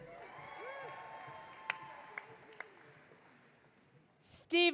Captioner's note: audience cheering